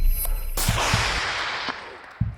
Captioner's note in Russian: выстрел